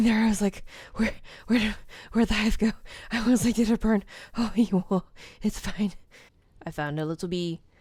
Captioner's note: relieved noises